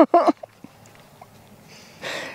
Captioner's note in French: Rires